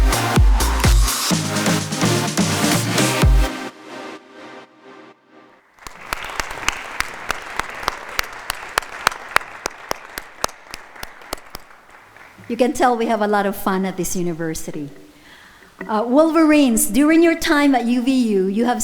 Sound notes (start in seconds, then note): 0.0 upbeat music; 5.7 audience applauding